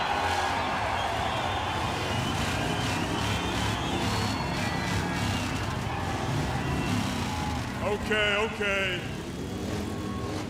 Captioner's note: crowd cheering